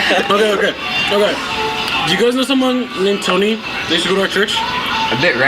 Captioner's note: laughter